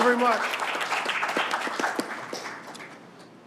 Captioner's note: applause